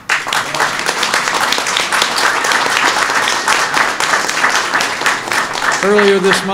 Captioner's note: applause